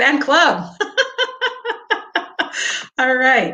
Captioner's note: laughing